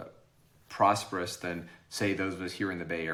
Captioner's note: none